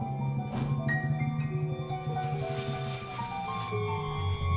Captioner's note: clothes rustling